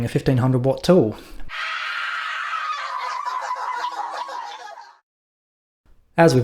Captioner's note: undignified screaming